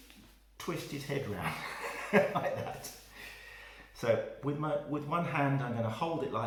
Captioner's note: laugh